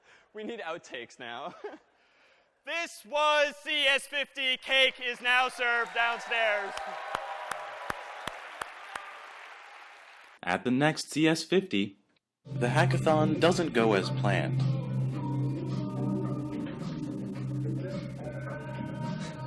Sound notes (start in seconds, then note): 6.7 applause